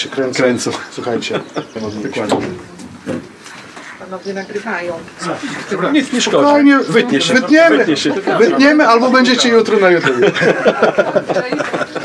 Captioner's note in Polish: śmiech